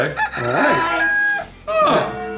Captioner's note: cuckoo coos